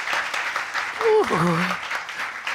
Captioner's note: groaning